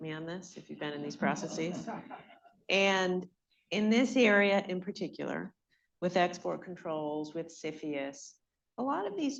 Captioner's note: laughter